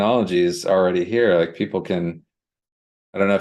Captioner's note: none